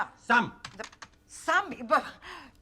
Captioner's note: man yelling in unknown foreign language; keyboard clicking; woman speaking unknown foreign language